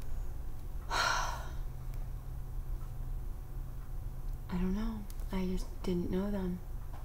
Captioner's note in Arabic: تتنهد